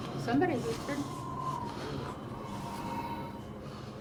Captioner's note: wind whistling